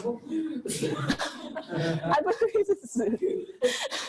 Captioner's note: all laugh